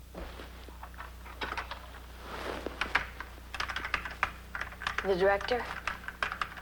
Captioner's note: computer keys clack